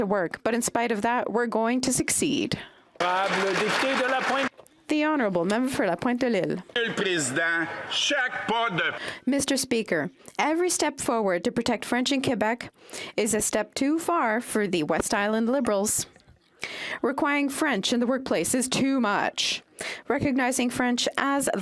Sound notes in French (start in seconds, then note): 3.0 applaudissements